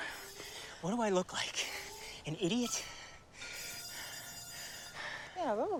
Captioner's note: panting